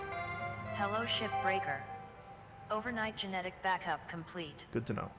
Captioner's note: Hab Voice